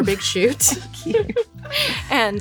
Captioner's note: laughs